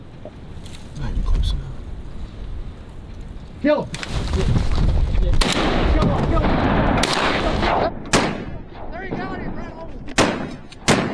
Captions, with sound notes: Might be close enough. Kill’em! (gunshot) Kill’em, kill’em! (gunshot) There you got him, right... oh! (gunshot)